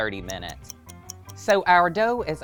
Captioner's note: clock ticking